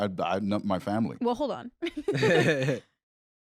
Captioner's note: laughs